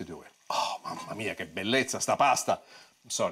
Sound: foreign language

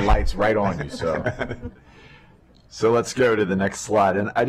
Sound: laughter

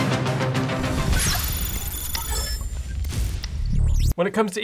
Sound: lightning zapping

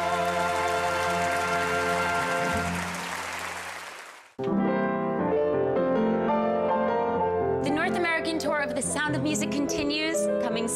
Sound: applause

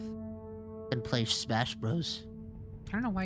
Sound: nerd Voice

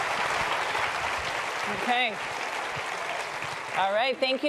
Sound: applause

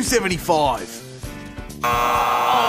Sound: buzz!

